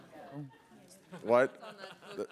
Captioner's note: laughter